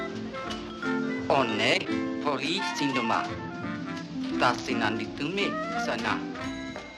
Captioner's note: continuing in greek